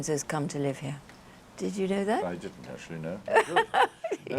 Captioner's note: laughter